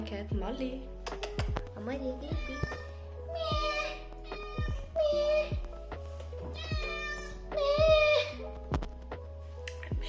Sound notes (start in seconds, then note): 0.1 in Italian; 2.2 meowww; 9.2 in English